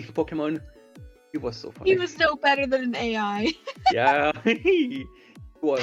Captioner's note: giggles